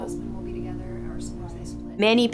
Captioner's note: chatting